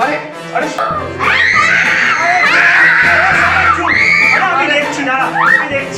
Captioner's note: kids scream